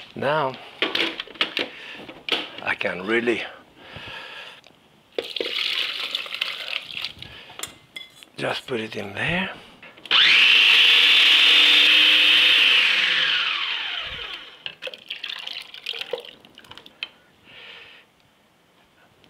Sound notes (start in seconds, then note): 5.2 soup sloshing; 10.1 food processor whirring; 14.7 soup sloshing